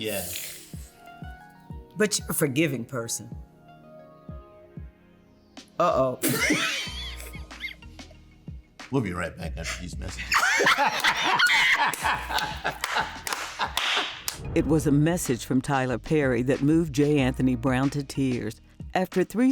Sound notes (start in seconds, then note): 6.2 laughter; 10.0 laughter